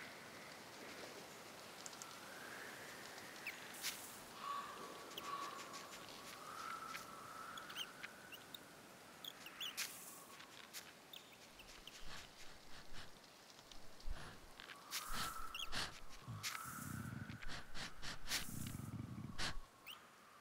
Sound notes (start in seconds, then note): 0.2 chirping; 3.4 snow crushing; 8.3 chirping